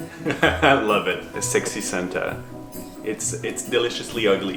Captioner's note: laughs